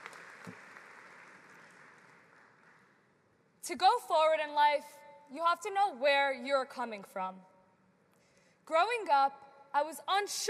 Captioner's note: applause